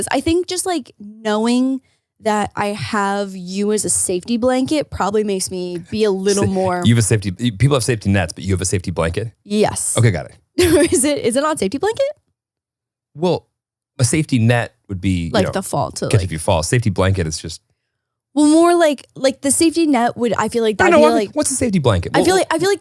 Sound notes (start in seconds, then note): 10.6 chuckles